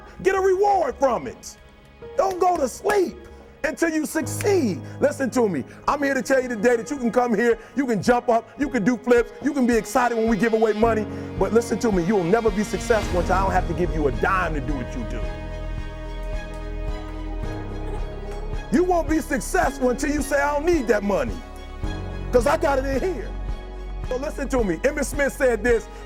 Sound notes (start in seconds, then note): 15.2 audience clapping and cheering